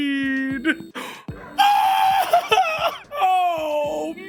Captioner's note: Skull screams in delight